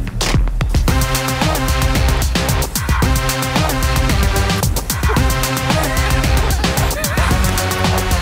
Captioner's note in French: rires